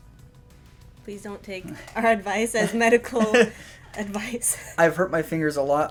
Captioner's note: laughter